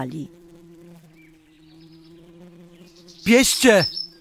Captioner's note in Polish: pszczoły